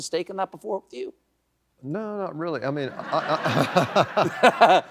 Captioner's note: laughter